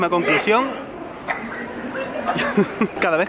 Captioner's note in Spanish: persona estornuda